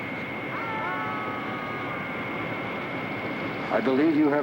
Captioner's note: group yelling